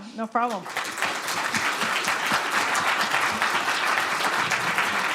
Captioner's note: applause